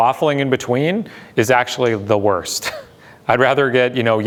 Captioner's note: laughs